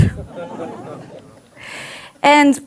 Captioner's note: audience laughs